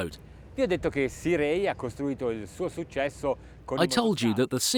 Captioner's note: speaking foreign language